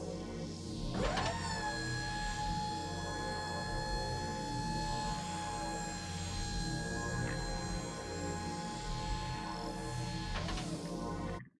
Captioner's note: mechanical whirring